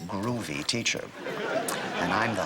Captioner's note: audience laughter